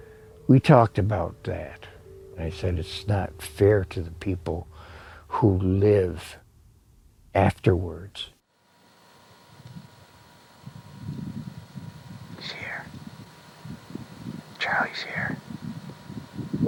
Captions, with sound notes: We talked about that and I said, it's not fair to the people who live afterwards. (wind howling) He's here. Charlie's here.